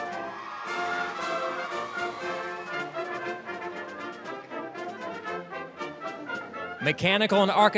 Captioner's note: applause, cheering